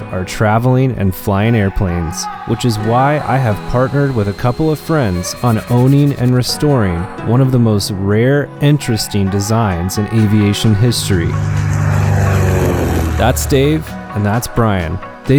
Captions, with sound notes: are traveling and flying airplanes, which is why I have partnered with a couple of friends on owning and restoring one of the most rare, interesting designs in aviation history. (plane engine) That's Dave and that's Brian.